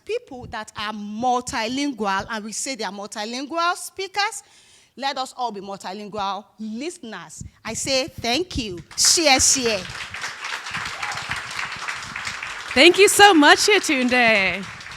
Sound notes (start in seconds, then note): 8.6 speaking in foreign language; 10.4 audience applauding